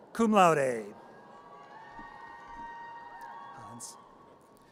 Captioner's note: audience cheers